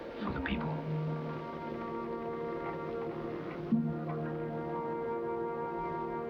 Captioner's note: bridge creaking